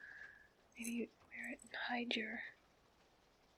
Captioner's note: whispers